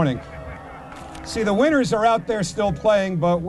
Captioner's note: audience boos